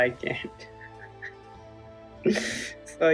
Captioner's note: laughs in self-misery